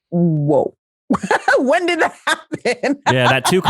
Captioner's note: laughs